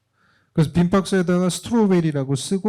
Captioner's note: speaking korean